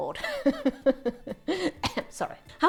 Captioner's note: coughs